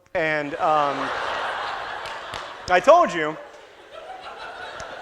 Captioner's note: audience laughter